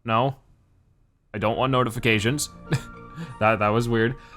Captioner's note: chuckles